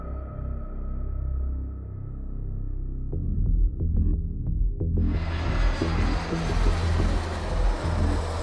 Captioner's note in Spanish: música de suspense; sonido de avión; música de suspense